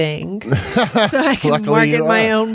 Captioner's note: chuckles